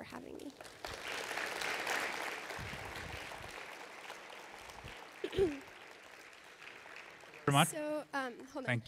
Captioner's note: applause